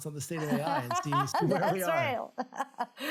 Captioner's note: laughs